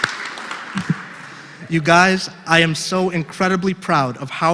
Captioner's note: applause